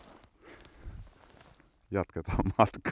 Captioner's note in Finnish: naurahtaa